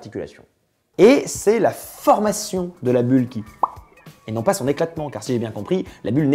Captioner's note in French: bop